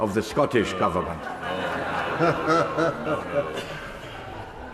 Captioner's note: laughter from crowd